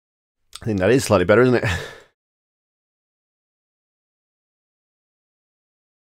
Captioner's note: chuckles